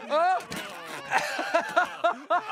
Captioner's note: laughs